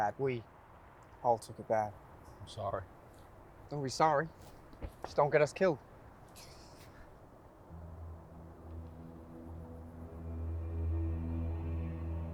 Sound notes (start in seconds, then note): 5.7 scoffs; 9.4 ominous music